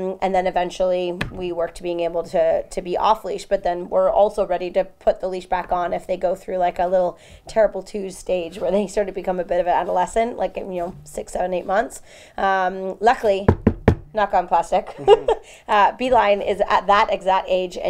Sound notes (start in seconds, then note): 13.4 knocks on table